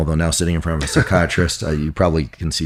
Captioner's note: laughs